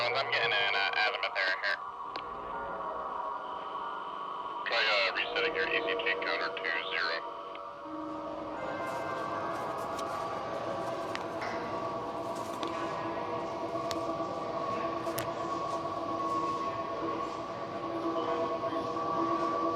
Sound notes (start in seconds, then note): 13.5 people chattering